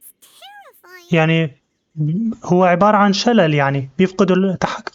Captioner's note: birds chirping